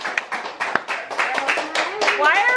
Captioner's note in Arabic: تصفيق